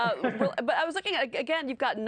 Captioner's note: laughter